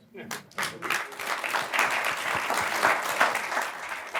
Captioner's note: applause